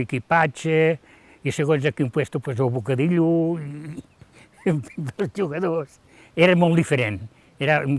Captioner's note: laughs